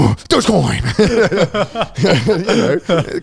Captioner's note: all laughing